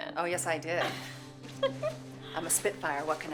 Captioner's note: Candace laughs